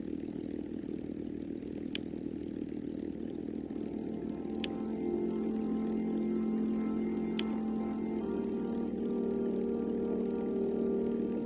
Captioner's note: starting airplane